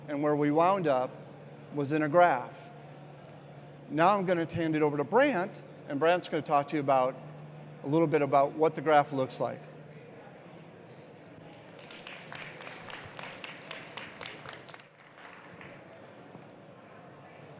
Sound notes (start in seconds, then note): 11.4 audience applauds